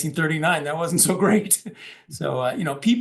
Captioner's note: laugh